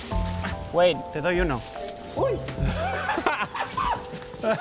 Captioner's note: laughing; speaking in Spanish; neighbors laughing